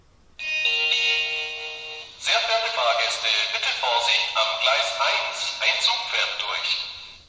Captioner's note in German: Bahnhofsansage mit Gong